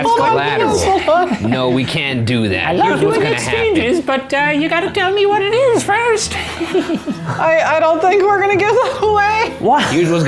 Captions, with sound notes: that's collateral. - Hold on No we can't do that, here's what's gonna happen. - I love doing exchanges but you gotta tell me what it is first (giggles). - I don't think we're gonna get that way (laughs).